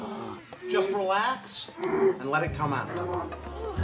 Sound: grunting

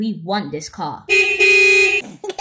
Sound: horn beeps; laughs

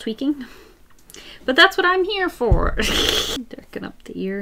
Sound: laughs

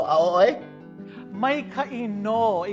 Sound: in Hawaiian language

